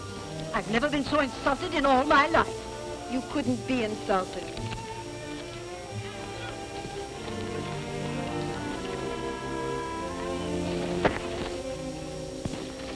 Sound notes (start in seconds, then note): 11.0 smack